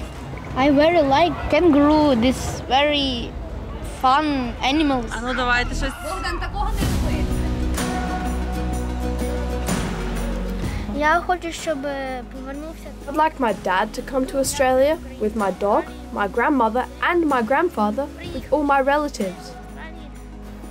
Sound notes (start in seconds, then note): 4.8 speaks ukrainian; 11.1 speaks ukrainian